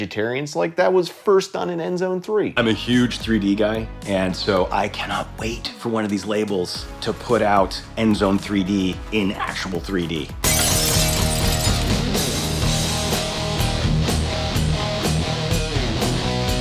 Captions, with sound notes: like that was first done in "End Zone 3." - I'm a huge 3D guy, and so I cannot wait for one of these labels to put out "End Zone 3D" in actual 3D. (glass shatters) (rock music)